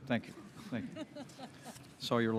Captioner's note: laughter